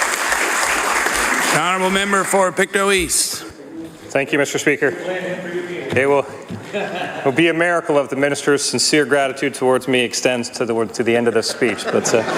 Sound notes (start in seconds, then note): 6.7 applause